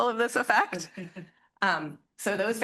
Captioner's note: student chuckles